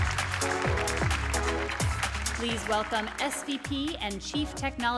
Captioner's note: applause, upbeat music